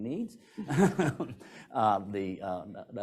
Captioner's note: speakers laugh